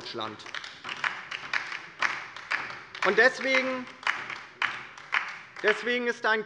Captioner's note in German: Beifall bei der LINKEN